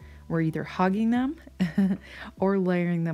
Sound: chuckles

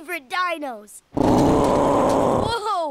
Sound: roaring

